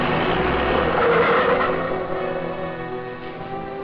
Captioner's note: tires screech